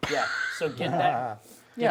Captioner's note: laughter